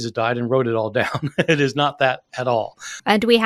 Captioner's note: chuckling